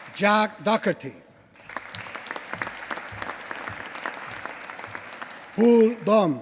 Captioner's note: applause